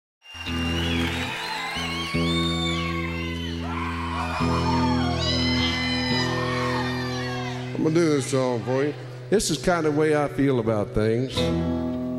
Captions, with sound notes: (crowd cheering and applauding) (guitar strumming) - I'm gonna do this song for you. This is kind of way I feel about things.